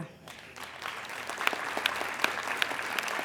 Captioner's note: applauding